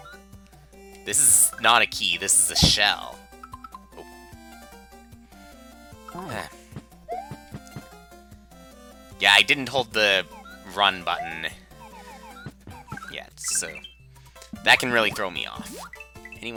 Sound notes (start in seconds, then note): 6.2 sigh